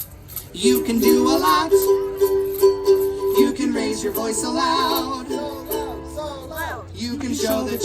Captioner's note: so loud! x2